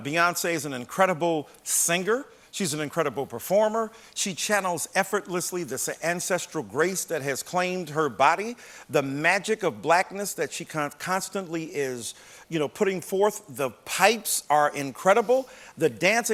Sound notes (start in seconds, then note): none